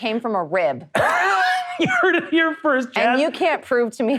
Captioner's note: laughs